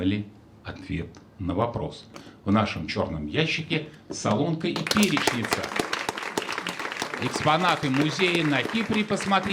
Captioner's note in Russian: аплодисменты